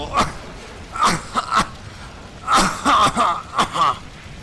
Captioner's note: more rampant coughing